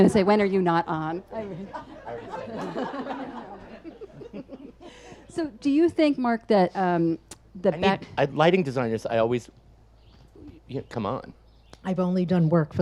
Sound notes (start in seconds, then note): 3.4 audience laughs; 3.4 laughs